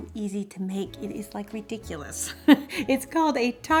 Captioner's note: laughs